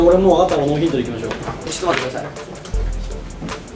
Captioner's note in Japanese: 超小声